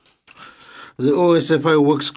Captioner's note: speaking French